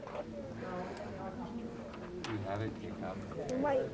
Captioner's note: group chattering